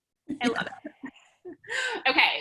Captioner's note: laughing